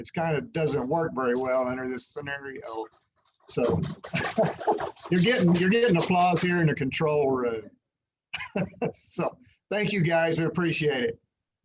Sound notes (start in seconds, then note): 4.6 distant Applause